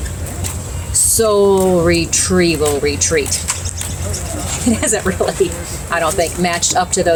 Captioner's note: laughing